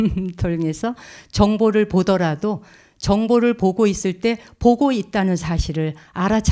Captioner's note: speaking in Korean